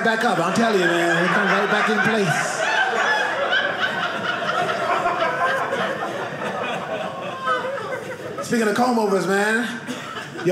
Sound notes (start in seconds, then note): 2.5 audience laughing